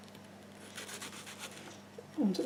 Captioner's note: slicing sounds